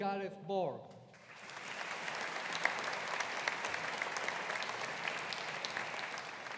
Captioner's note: audience applauding